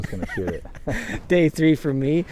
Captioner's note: laughing